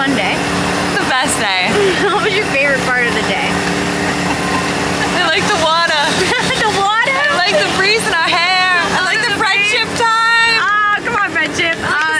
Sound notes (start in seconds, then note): 7.2 laughs